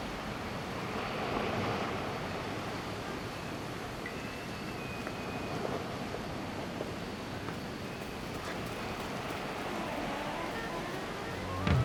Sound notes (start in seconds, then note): 6.0 footsteps shuffle